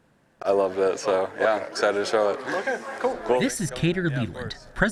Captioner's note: people talking